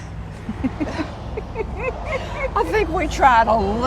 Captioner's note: laughs